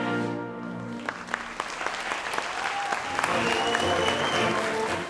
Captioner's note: audience applauds